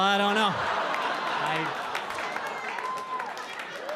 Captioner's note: audience laughing